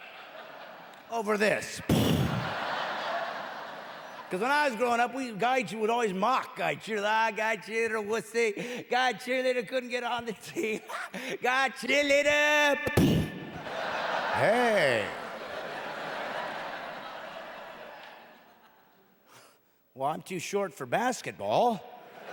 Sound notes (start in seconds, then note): 4.4 explosion noise; 15.4 explosion noise; 16.4 audience laughing; 18.4 audience continues laughing